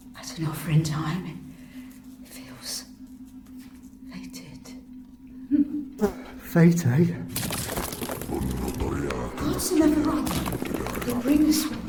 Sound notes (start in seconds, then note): 7.3 rumbling sound